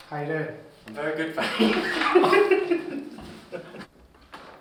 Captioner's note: laughs